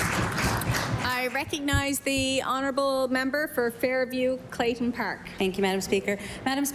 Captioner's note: applause